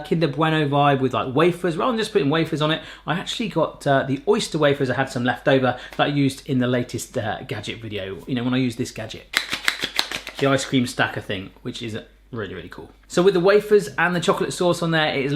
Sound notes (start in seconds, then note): 9.3 slapping